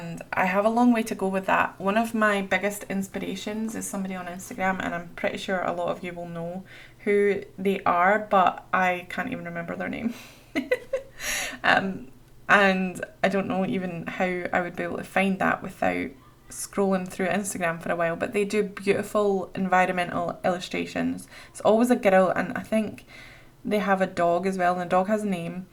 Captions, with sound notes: I have a long way to go with that. One of my biggest inspirations is somebody on instagram and I'm pretty sure a lot of you will know who they are but I can't even remember their name [Laughs] And I don't even know how I would be able to find that without scrolling through instagram from a while but they do beautiful environmental illustrations. Always a girl and I think they have a dog as well and the dog has a name.